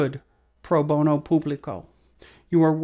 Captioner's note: speaking foreign language